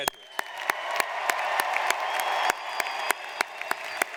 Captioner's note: audience cheers